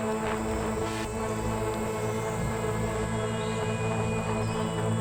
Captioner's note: crickets chirping